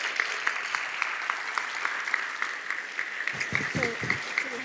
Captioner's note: audience applauding